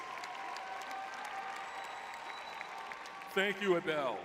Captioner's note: audience cheering